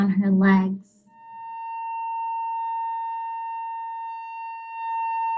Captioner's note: high-pitched whistling